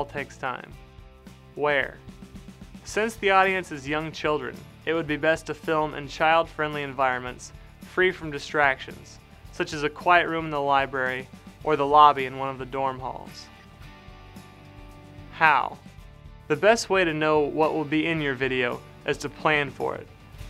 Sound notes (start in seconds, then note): 0.2 voice-over; 14.2 voice-over